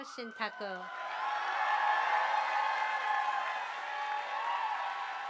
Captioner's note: audience applauding